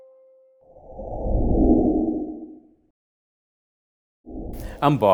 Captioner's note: wooshing sounds begin